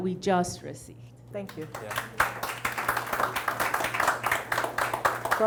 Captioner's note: audience applauds